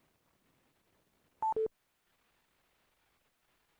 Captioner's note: beeping